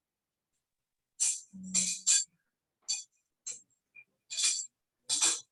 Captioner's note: object continues clattering